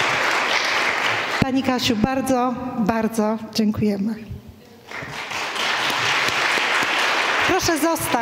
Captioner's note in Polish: oklaski; oklaski